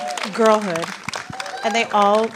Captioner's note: applause